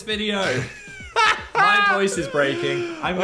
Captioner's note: Dan laughs